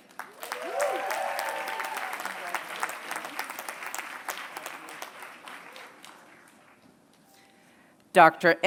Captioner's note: applause